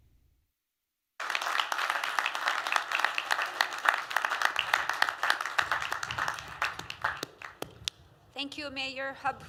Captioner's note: applause